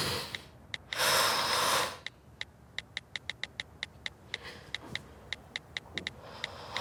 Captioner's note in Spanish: Sonidos al escribir texto